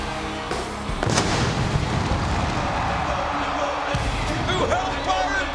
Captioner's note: pyrotechnics exploding